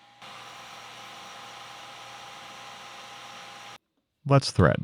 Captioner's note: machine whirring